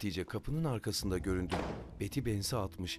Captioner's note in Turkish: Kapı kapanma sesi